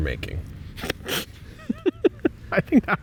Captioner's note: laughing